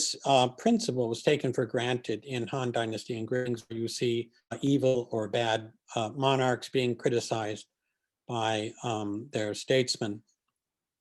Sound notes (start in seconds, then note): 3.4 distortion